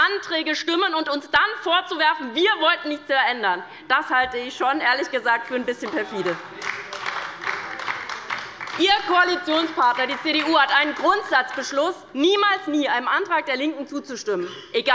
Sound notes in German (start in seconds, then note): 5.5 Beifall bei der LINKEN - Unruhe